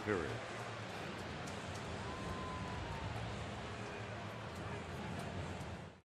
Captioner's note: crowd chanting